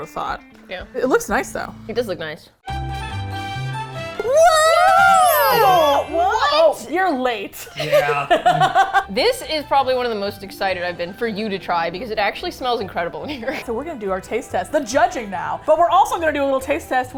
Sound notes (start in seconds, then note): 2.6 cheerful Music; 7.6 laugh; 13.3 laughs